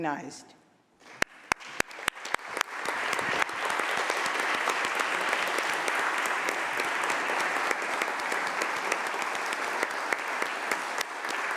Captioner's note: applause